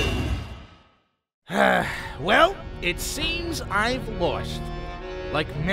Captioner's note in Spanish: sigh